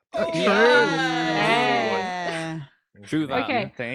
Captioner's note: cheering